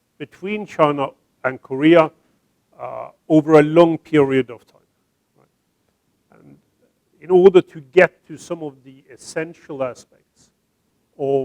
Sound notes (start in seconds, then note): none